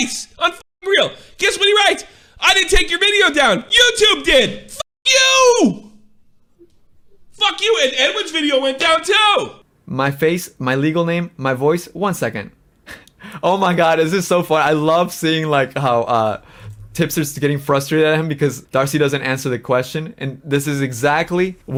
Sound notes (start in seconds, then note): 12.8 laughs